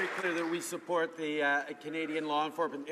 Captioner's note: some Applause